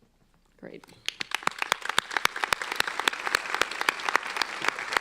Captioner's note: applauding